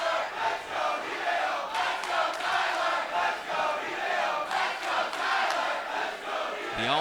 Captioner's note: fans chanting